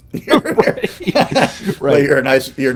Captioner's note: both laughing